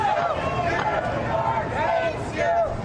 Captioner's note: crowd chanting